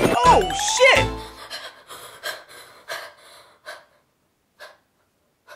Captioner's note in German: Atmet hektisch; Stille, Atem